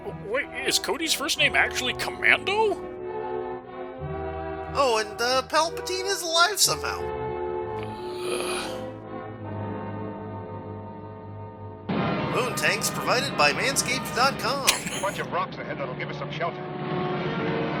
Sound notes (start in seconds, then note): 7.8 low groan of annoyance